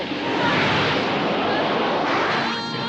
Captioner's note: flames whooshing